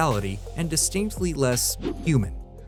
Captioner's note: whoosh